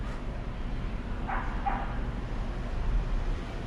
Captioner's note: bark bark!